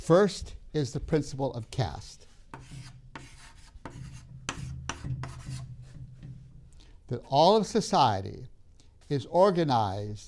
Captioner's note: chalk sounds on board